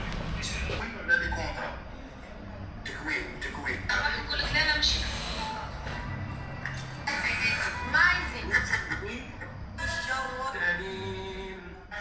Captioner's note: algerian radio